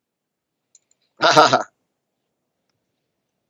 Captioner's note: laughs